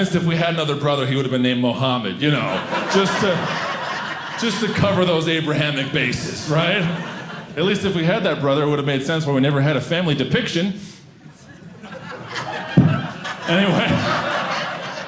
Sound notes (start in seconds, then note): 11.3 audience laughing